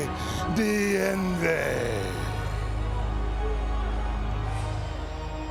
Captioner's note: Undertaker speaking in tongues